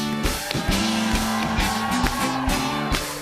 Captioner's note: cheers and applause